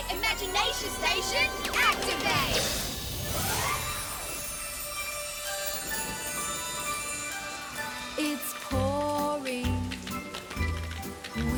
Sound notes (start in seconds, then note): 3.8 bright playful music; 4.0 rain pattering